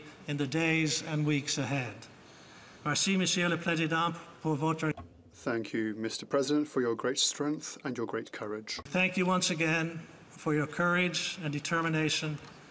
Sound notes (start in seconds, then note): 6.9 speaking French